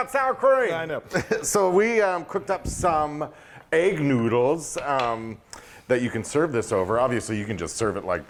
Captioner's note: laugh